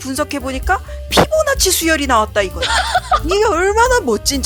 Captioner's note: laugh